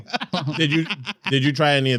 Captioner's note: laughing